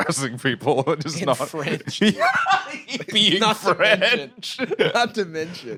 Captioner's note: laughing